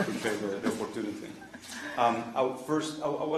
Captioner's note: laughter